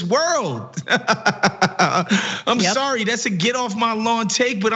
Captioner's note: laugh